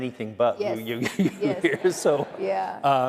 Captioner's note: laughter